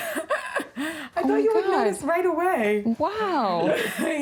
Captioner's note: laughs